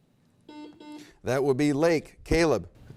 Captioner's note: buzzer beep